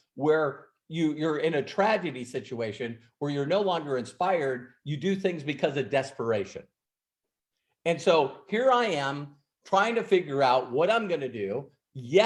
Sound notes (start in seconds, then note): none